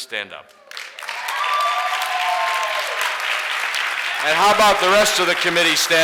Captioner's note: audience applauds and cheers